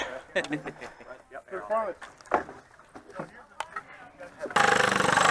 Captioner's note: workers chattering